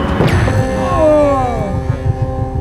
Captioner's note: Justin groans